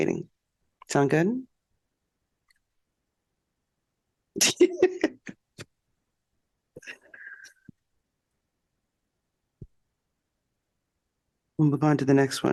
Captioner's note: laughter